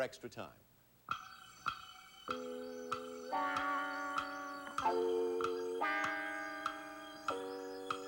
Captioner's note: clock ticking